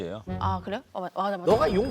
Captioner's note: scratching